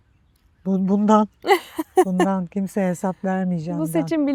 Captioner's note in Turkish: kahkaha